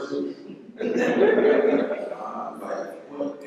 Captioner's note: laughter